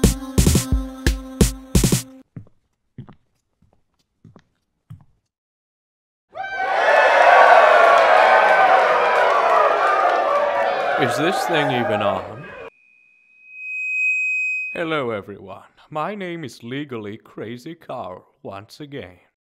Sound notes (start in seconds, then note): 2.3 footsteps; 6.3 crowd cheering; 13.1 microphone feedback